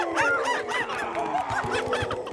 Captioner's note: hooting